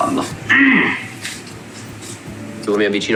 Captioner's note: squawks